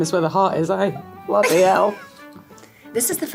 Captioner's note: Jessica laughing